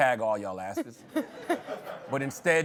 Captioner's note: laughter